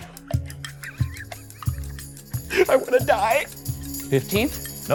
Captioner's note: laughing